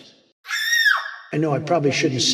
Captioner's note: excited shrieking